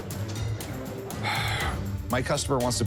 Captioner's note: sighs